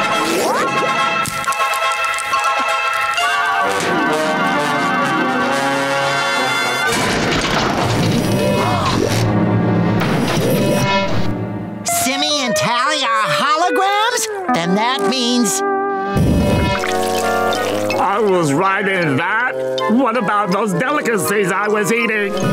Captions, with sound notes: [gasps] Simmy and Tally are holograms! Then that means... I was riding that? What about those delicacies I was eating?